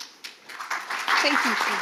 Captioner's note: audience applauding